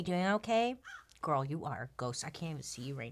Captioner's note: crow caws